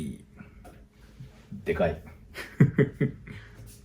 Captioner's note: laughs